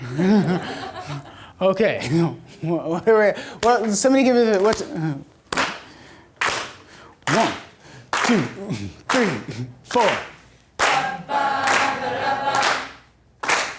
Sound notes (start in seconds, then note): 0.2 audience laughter; 6.4 clapping